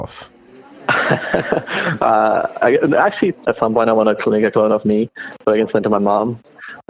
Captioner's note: laughs